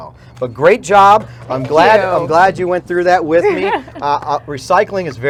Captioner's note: laughter